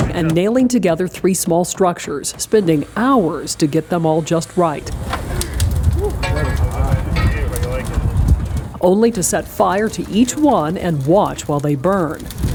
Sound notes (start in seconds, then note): 5.2 firefighters chatting